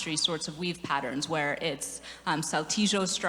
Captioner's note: none